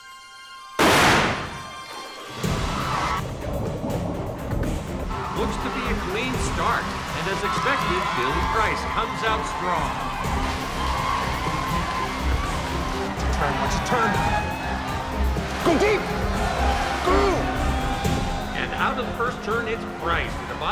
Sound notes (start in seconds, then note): 0.8 starter's gun blasts; 10.3 adventurous music